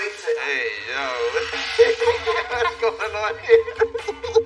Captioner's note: laugLaugh